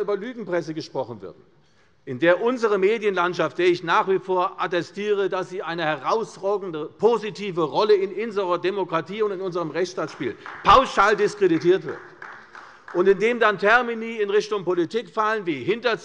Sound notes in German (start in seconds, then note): 10.0 Beifall bei der CDU